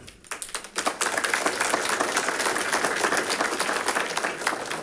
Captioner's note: audience applauding